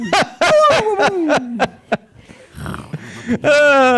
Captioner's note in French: Rire intense continu